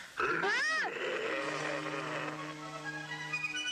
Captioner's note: Carrie screaming; Qahhar growling; dramatic music